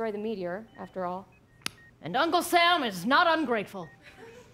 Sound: tongue click

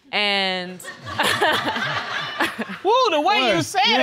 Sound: laughs

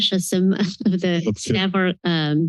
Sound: chuckles

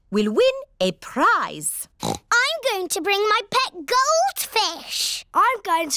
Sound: oinks

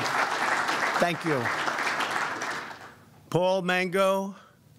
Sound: applause

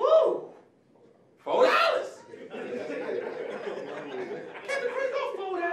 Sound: audience laughing

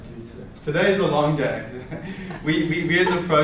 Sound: laughs

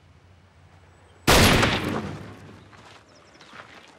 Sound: gunshot firing

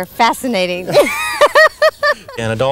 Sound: laughs

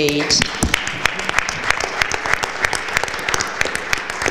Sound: applause

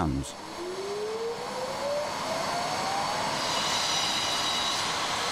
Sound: machinery whirring

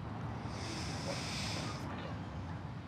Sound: inhales

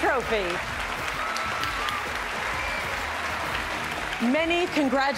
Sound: cheers and applause

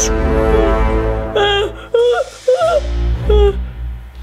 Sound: cries

